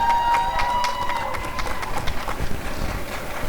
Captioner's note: applause and cheering